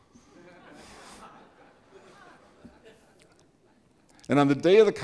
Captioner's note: audience laughing